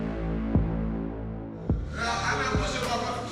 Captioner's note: indistinct chatter